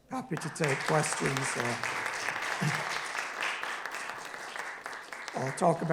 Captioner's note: audience applauding